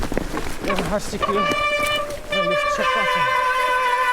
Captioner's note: squeek